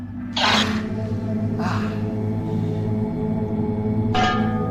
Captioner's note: Aciris cries out